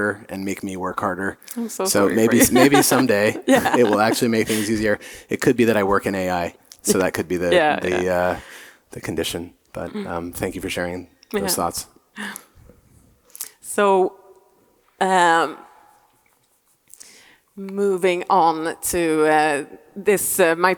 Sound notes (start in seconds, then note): 1.8 laughing